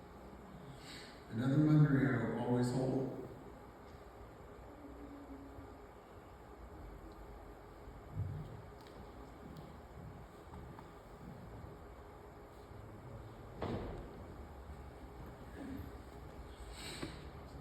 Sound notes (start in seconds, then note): none